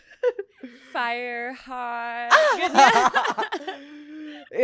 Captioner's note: laughs; laughs